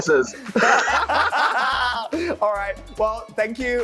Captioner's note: both laughing